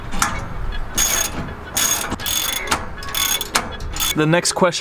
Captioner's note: wrench rattles